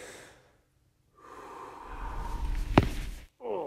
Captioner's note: exhales deeply